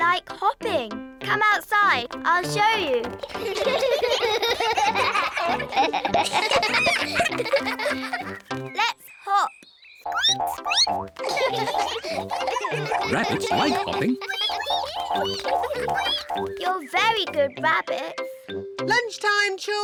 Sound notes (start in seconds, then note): 4.7 all giggle; 11.1 squeaks; 11.1 all giggle; 16.4 all squeak